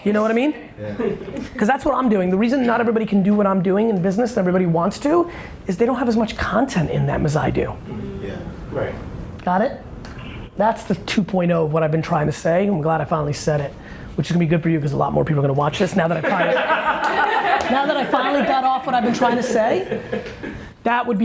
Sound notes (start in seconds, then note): 16.2 laughing